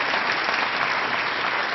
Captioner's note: applause